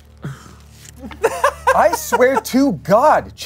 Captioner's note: laughs